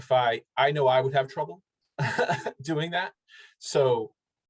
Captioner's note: laughs